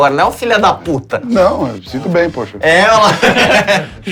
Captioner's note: risos